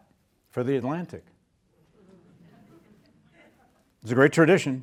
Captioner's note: students laughing